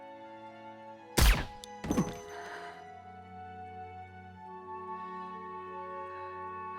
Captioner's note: gun firing; body thudding on floor